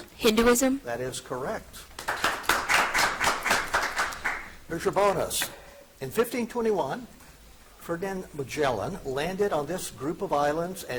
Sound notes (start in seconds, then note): 1.9 audience applauding